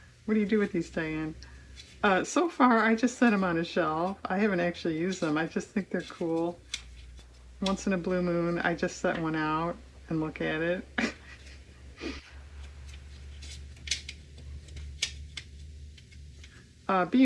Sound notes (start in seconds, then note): 14.4 laughs